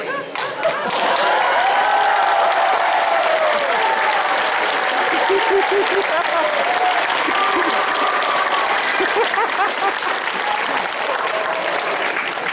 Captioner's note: cheers and applause